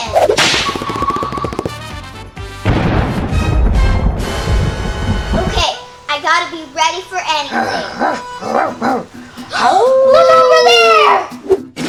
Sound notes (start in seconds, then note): 0.2 snap; 2.6 boom; 7.4 hooting